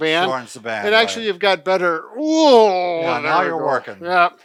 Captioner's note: groaning